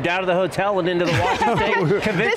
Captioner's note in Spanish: risas